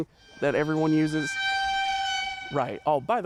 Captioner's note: Hydrophone squeal used on Kitchen Nightmares